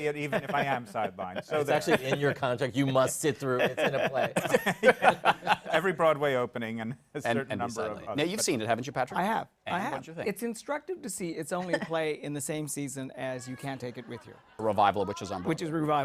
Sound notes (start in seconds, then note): 5.4 laughter